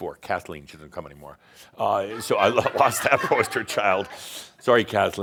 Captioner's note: some chuckles